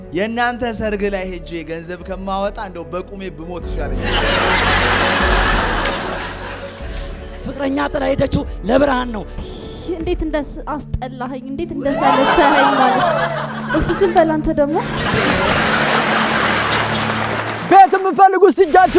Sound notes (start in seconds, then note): 4.0 laughter; 11.8 scream and laughter; 14.8 applause